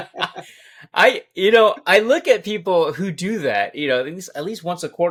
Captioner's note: both laughing